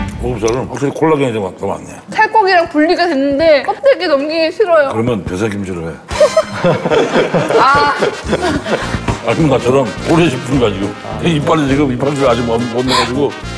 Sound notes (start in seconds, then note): 6.1 laughing naturally; 6.1 laughing